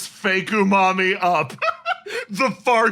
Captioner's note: laugh